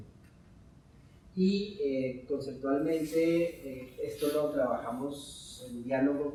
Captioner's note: speaking in Spanish